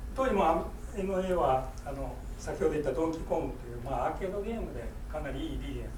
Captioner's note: speaking in foreign language